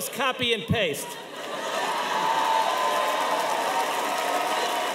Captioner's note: audience cheering